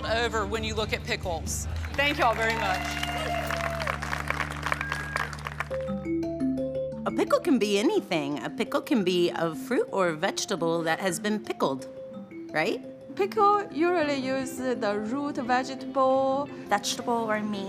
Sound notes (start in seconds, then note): 1.6 crowd cheering and applauding; 5.3 bright music